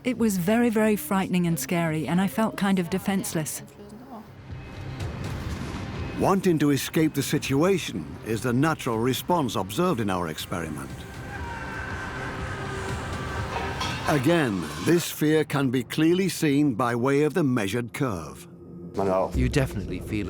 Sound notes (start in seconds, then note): 0.7 in German; 2.3 dubbed in English; 13.4 soldier screams